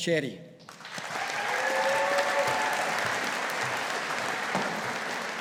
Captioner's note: audience applauding